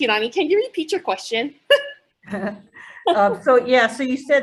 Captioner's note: chuckles